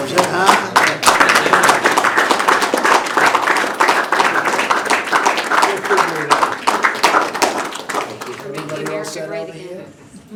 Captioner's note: applause